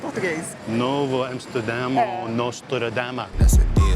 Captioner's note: trying to speak Portuguese